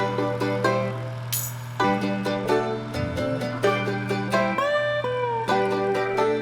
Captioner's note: lively music; truck engine revving